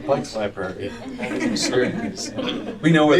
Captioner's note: laughter